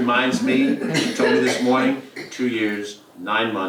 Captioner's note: laugh